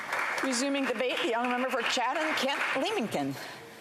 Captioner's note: some Applause